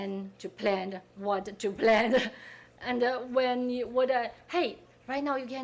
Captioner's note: laughing